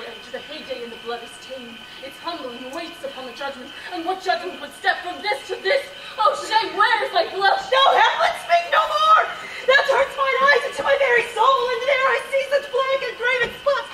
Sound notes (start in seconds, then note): none